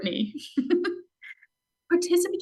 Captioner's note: laughs